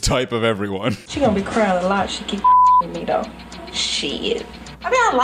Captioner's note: beep